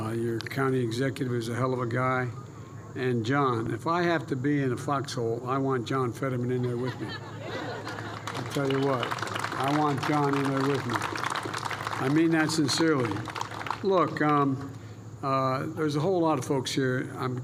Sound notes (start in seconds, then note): 7.8 applause